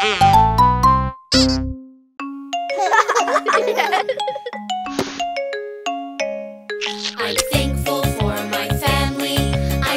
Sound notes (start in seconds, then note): 2.2 lively music; 2.7 chuckling